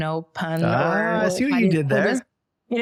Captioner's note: laughs